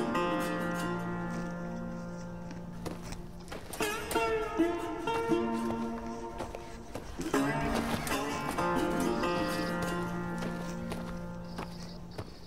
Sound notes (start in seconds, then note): 6.6 footsteps thudding